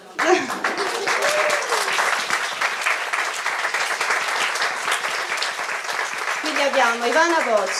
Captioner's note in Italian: Applauso